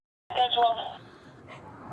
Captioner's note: radio chatter